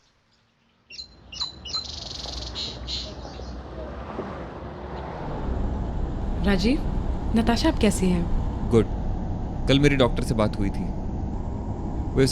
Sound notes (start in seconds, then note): 0.0 birds chirping; 4.8 moving cars